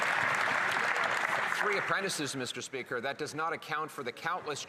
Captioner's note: some Applause